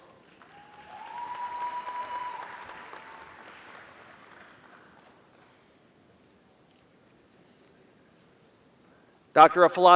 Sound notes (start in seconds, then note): 0.2 applause